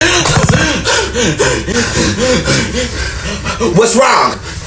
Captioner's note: panting